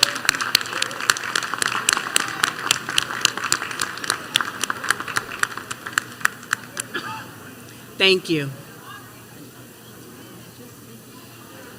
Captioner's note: applause